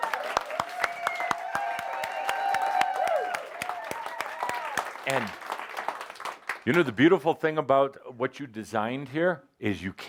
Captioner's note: lots of audience applause and cheering